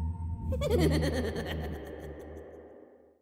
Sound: laughing

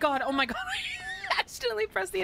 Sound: wheezing

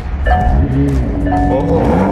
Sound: engine revs

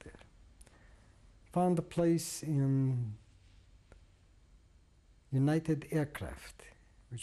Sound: pauses for 3 seconds

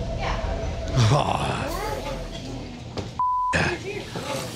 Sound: beep

